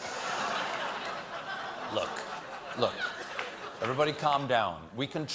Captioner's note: laughter